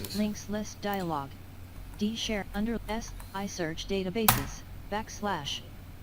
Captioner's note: sound of screenreader